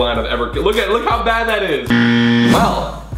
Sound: warning horn

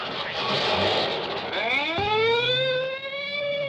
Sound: police siren

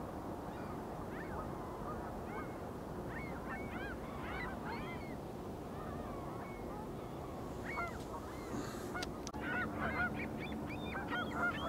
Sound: birds chirping

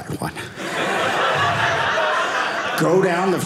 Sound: audience laughing

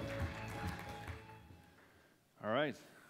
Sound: applause

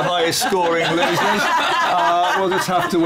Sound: laughter

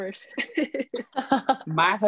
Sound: laughing

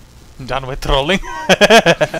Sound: laugh

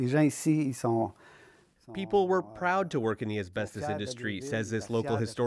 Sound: speaking French

